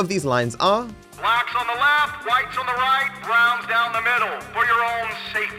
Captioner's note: PA Announcement